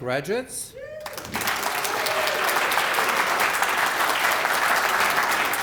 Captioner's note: applause